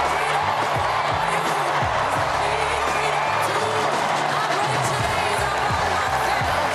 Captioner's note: applause